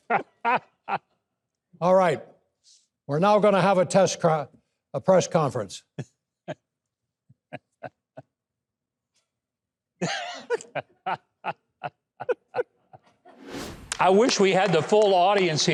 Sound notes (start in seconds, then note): 0.0 Mike laughing; 7.4 hosts laughing; 13.3 logo whooshing; 13.9 audience applauding